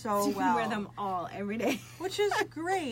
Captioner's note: laughs